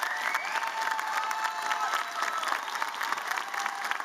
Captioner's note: applause